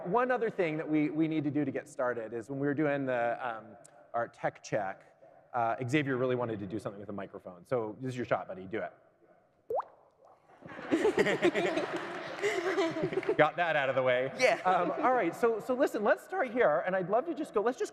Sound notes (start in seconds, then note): 10.6 laughter; 10.8 raindrop sound